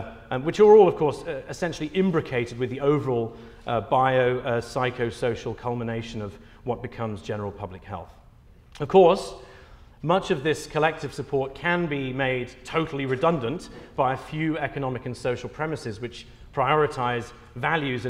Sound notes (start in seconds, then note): none